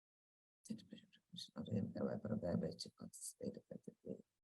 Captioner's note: faintly speaking